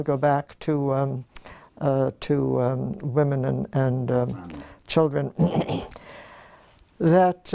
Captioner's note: cough